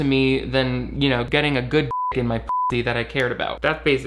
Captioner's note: beep